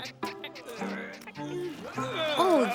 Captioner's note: caterpillar noises; groaning